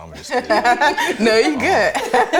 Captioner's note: all laughing